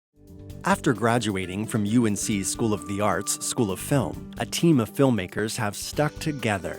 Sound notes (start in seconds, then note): 0.8 voiceover